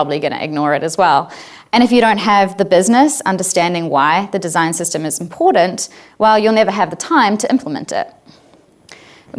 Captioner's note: none